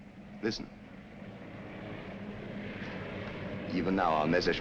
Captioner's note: planes flying